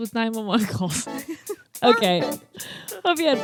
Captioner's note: laugh